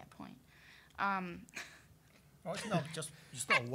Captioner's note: laughing